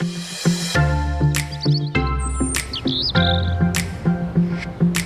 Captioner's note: birds chirping